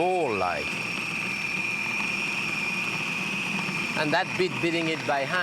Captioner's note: food processor whirring